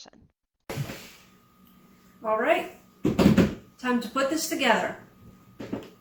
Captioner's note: table slap